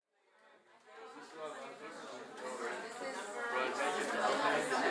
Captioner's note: chatter